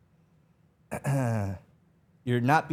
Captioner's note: clears throat